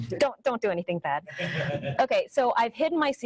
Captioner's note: audience laughing